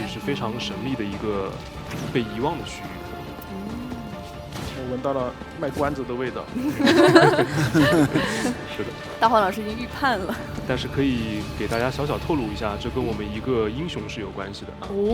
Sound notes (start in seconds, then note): 6.5 laughs